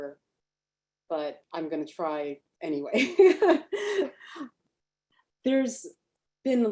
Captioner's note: laughs